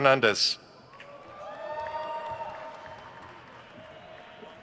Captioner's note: crowd cheers